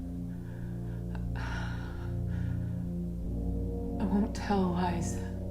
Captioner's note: Leona sighs